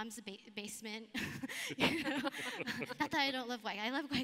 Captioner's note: laughs